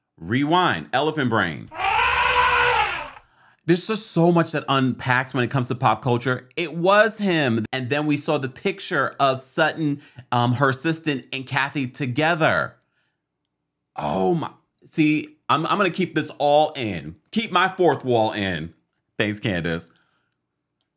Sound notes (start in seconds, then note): 1.7 elephant trumpets